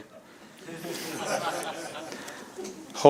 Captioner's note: laughter